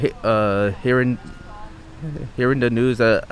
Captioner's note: stuttering